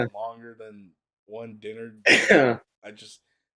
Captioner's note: laughs